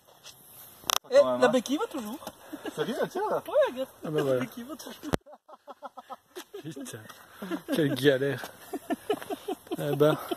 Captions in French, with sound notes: La bequille va toujours ! (rire) Sérieux ? Ouais, regarde ! (rires) Putain, quelle galère... He ben...